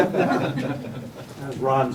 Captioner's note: laughter